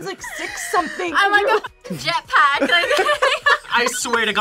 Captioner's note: laughs